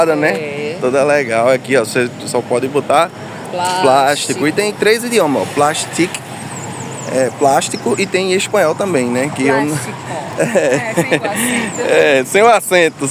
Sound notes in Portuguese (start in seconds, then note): 10.3 risadas